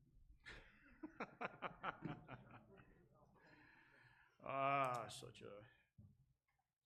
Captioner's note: laughs